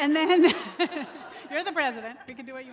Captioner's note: laughter